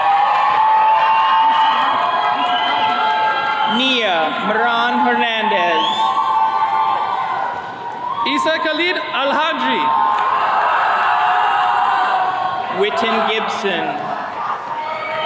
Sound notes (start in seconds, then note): 0.1 attendees cheering; 6.3 attendees cheering; 10.5 attendees cheering; 14.0 attendees cheering and whistles